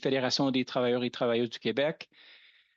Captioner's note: speaking French